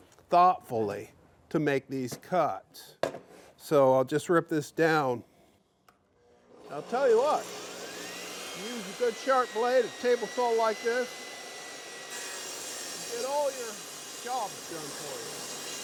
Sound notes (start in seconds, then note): 7.8 jointer sawing; 15.6 sawing